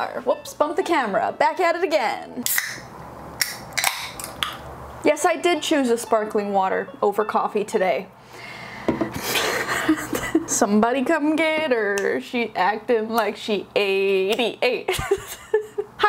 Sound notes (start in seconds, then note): 2.4 soda can being opened; 9.3 laughing